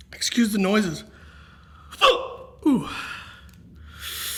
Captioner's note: hiccups